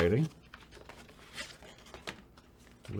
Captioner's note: paper rustling